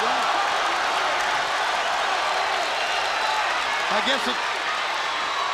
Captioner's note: crowd cheering